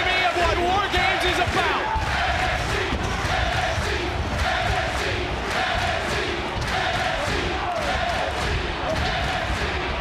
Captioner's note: crowd chant "NXT"